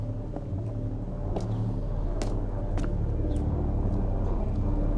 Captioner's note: suspenseful music continues; footsteps tapping; suspenseful music continues